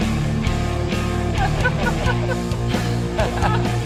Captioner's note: laughter